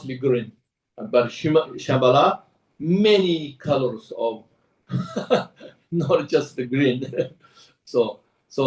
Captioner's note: laughs